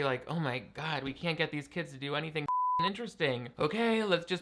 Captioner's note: beep